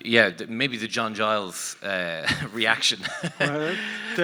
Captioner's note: laughs